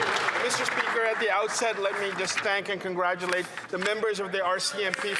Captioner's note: some Applause